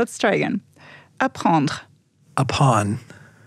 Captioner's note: foreign language